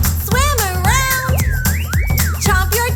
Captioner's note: stomp, stomp; silly whistle